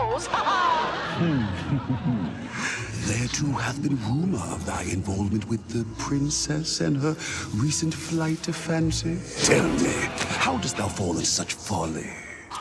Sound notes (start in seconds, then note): 0.0 laugh track; 0.4 chuckles